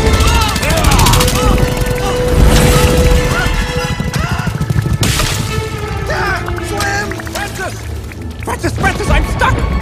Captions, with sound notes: [YELLS] (YELLS) Slim! Francis! Francis! Francis, I'm stuck!